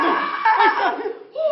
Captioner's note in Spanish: Gritos